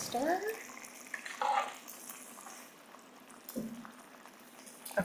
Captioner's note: food simmering